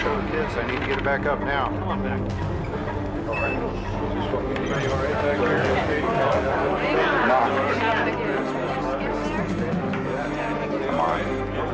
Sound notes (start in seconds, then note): 4.7 beeping